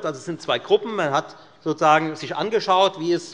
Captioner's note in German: none